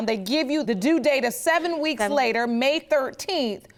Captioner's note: none